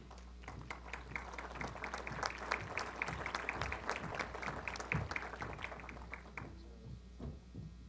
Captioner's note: applause